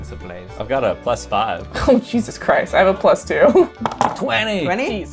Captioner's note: laughs